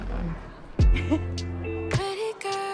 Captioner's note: laughs